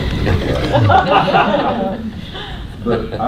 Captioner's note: laughter